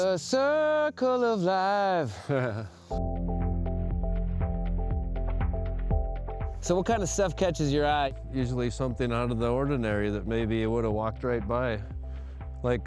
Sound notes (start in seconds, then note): 2.0 laughs; 3.5 soft music